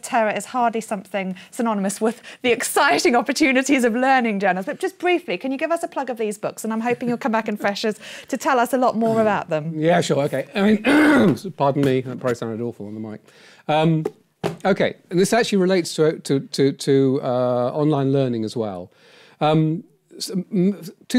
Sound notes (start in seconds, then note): 10.8 clearing throat